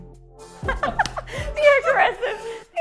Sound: laughs

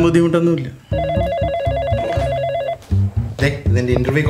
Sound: phone rings

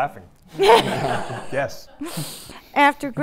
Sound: audience laughing

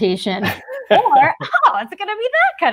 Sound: laughs

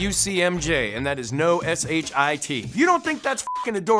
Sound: beeps

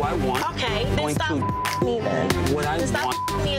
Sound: beeps; beeps

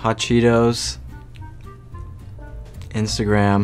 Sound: licks lips

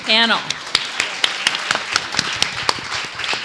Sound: applause

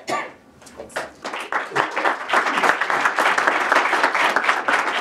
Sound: applause

